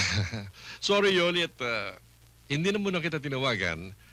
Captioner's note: chuckles